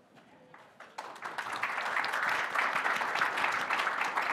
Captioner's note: applause